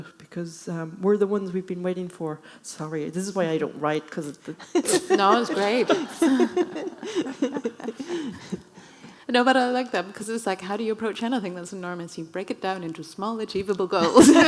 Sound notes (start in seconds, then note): 7.2 audience laughing